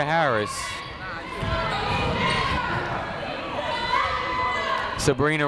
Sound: people shouting in the crowd

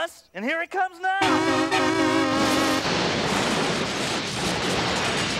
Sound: horn honking

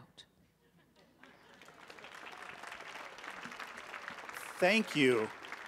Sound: audience applauding

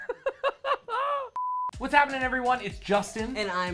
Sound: laughing; beep

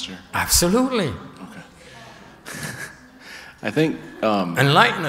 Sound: laughter

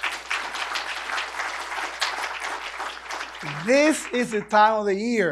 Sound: applause

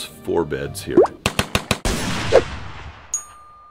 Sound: gun shot firing sound effects; bell dings

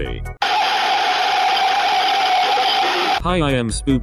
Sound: Phantom Mangle Screeching Is Possibly Dog Pain

